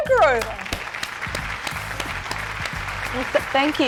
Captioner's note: applause